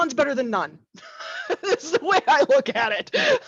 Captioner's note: laughs